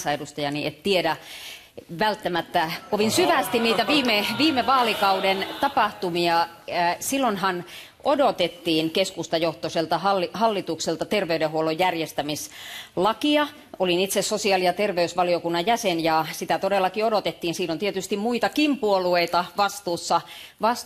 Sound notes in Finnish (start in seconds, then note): 1.0 Vastalauseita